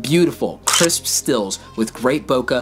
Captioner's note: shutter clicks